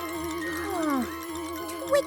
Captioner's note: rattle!; sighs